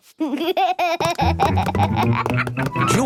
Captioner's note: snorts, giggles